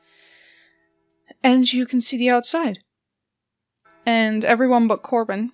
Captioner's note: church bells ring in the distance